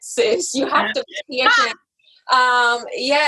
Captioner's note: laughs